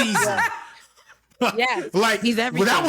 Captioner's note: laughing